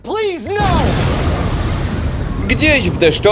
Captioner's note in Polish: boom!